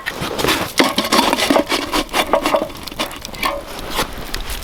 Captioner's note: fire crackling